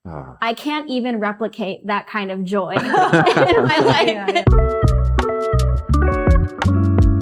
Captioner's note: laughter